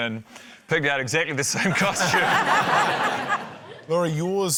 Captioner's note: laughter